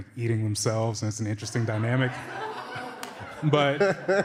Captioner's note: laughter